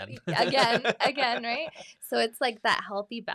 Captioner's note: laughs; chuckles; laughs